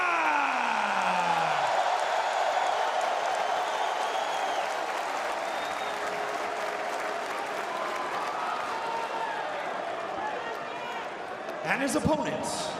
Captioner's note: crowd cheering